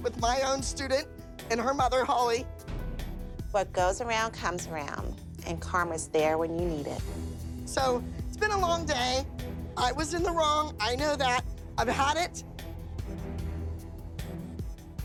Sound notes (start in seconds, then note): none